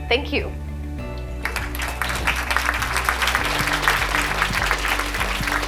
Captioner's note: applause